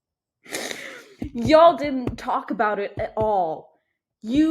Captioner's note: gross sounding inhale/laugh